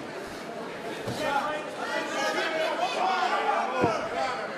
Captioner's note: crowd cheering